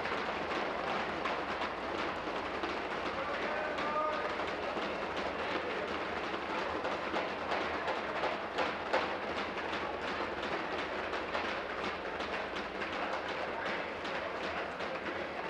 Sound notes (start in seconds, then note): 1.4 tapping of desks